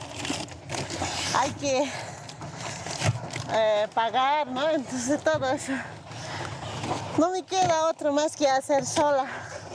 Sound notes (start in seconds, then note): 2.0 speaking in foreign language